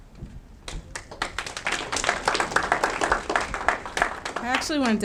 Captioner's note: audience clapping